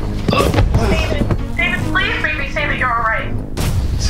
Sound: from phone

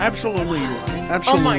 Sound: sigh

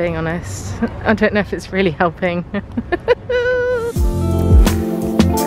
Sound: laughing; mellow funk music

